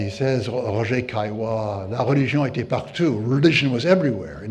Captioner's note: speaks in foreign language